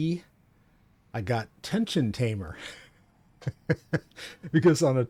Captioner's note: laughs